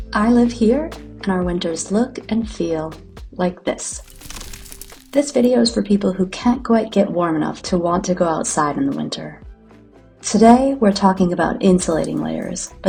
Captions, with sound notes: I live here, and our winters look and feel like this. [sound of ice crackling.] This video is for people who can't quite get warm enough to _want_ to go outside in the winter. Today, we're talking about insulalting layers